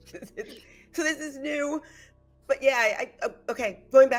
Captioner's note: laughs